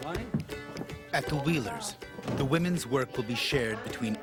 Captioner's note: voiceover